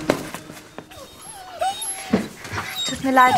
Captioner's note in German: Winseln